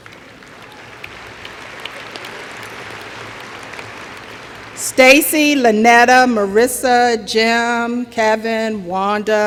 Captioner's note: applause